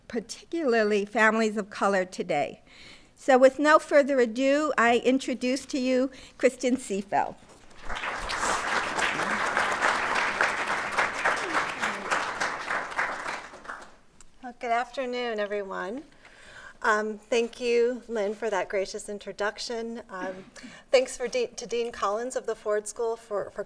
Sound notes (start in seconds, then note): 7.7 applause